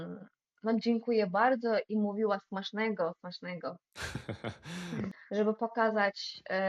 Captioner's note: laughter